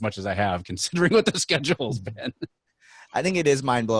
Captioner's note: laughing